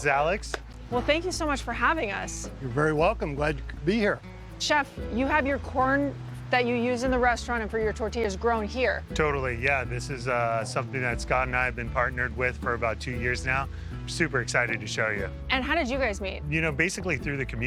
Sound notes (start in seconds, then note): none